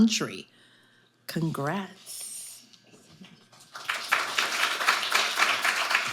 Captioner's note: audience applauding